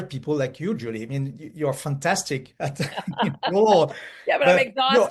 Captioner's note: laughs